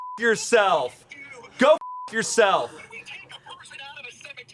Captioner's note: beep; beep